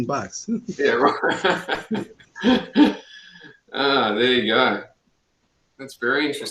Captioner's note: laughs